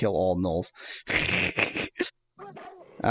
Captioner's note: snickering